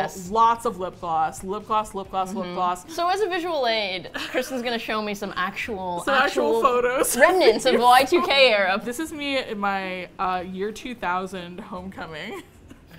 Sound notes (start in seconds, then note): 4.1 laughing